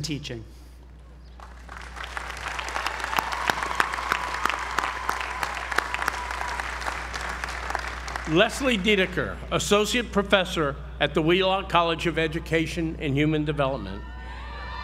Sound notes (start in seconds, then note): 1.3 applause